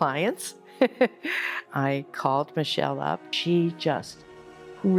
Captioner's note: laughs